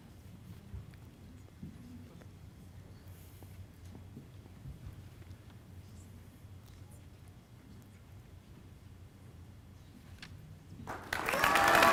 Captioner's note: applause